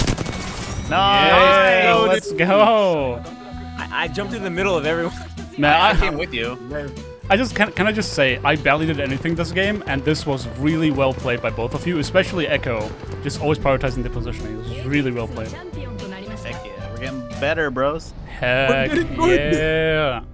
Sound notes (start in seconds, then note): 1.0 everybody cheering